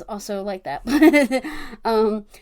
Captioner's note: laughs